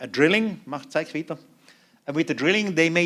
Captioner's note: non-english speech